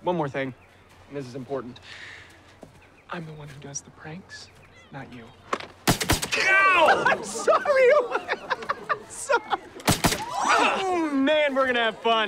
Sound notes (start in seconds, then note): 5.5 paintball gun fires; 6.3 laughing; 9.8 paintball gun fires